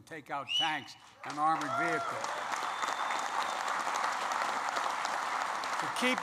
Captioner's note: applause